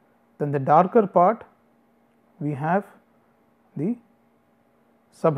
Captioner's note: distortion